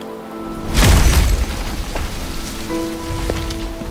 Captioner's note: resounding crash